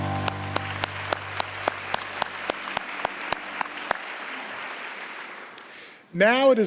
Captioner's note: applause